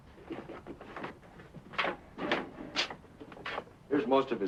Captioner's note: footsteps shuffle